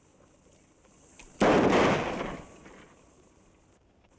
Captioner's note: gun fires